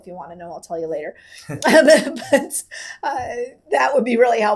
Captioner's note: laughing